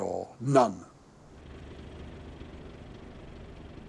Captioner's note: truck engine rumbling